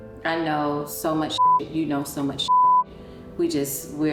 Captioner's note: mellow music; beep